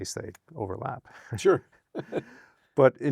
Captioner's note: laughs